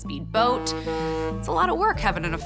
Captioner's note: boat horn honks